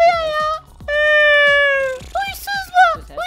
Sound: yawning

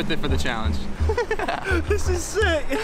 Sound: laughing

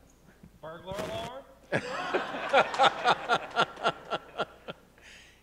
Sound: audience laughing

